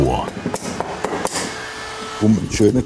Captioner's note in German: Klopfen